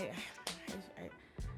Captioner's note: sighs